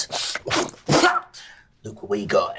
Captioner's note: hocks a loogie